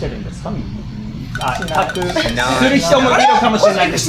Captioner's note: murmurs